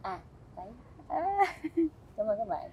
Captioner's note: laughing